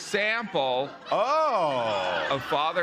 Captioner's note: laughter